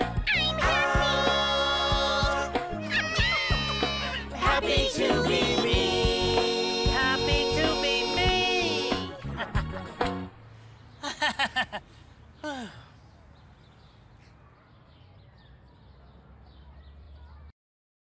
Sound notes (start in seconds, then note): 8.7 Big Bird laughs